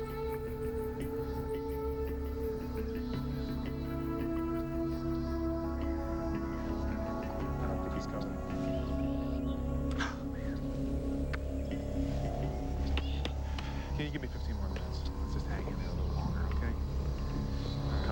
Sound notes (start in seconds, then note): 9.9 sighs